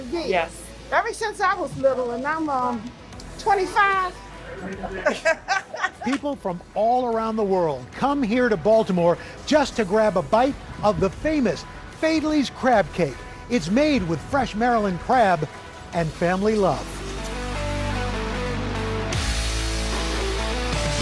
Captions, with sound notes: for years, ever since I was little, and I'm, umm... 25. (laughter) - People from all around the world come here to Baltimore just to grab a bite of the famous Faidley's crab cake. It's made with fresh Maryland crab and family love. (upbeat music)